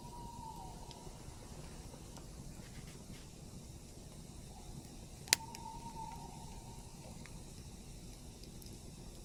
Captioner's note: voice of a forest bird in the distance